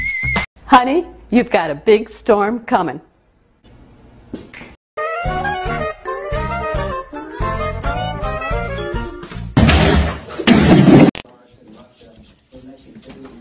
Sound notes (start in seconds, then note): 9.5 loud crash